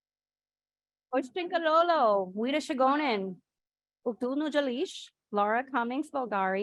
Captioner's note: speaking in foreign language